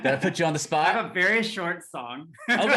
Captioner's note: laughing